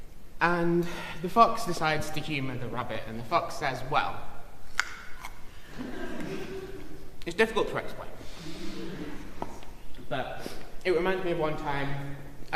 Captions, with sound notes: "'And the fox decides to humour the rabbit, and the fox says, "Well—"'" [chomp] [laughter] "'"It's difficult to explain,"'" [laughter] "'"but it reminds me of one time